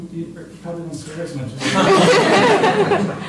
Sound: laughter

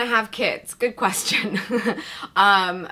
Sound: chuckles

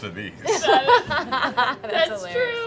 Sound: laughter

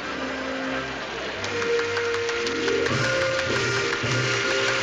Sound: applause

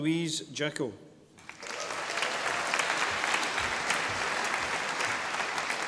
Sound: audience applauding

